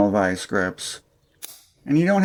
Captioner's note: click